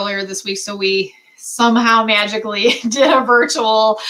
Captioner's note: laughter